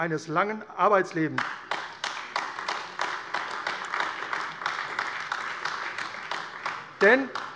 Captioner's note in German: Beifall AfD